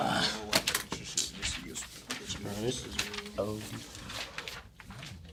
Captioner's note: students murmur